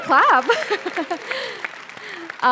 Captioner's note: applause